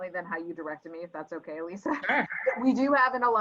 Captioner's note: laugh